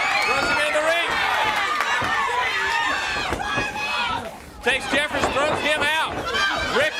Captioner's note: crowd cheering